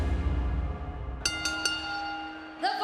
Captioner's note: bell ringing